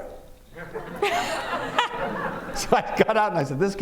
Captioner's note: laughter